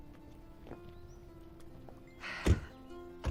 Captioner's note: Rochelle e sighs